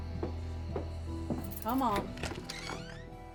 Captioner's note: footsteps; unlocks door